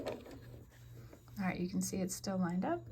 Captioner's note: sewing